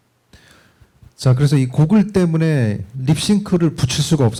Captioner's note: speaking korean